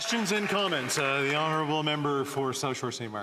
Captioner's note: applause